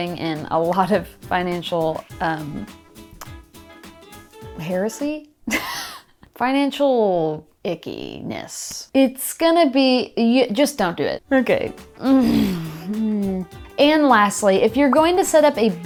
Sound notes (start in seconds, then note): 5.6 chuckles